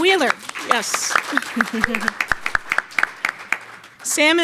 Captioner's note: audience applauds; chuckles